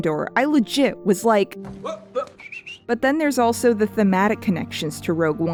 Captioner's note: whistling and pointing